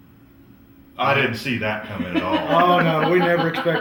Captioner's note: laughter